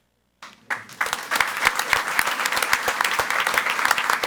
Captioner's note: audience applauds